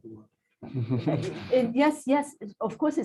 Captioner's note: laughter